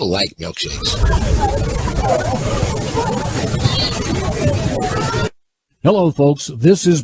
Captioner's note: people chattering indistinctly